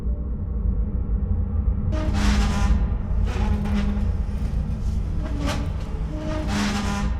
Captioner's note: suspenseful music; bed scraping